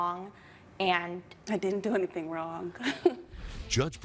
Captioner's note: chuckling